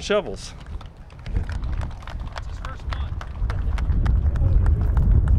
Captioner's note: applause